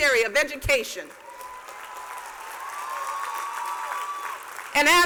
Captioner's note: cheers and applause